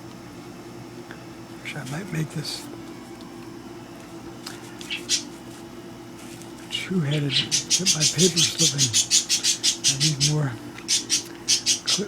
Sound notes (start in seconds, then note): 7.1 budgie squawks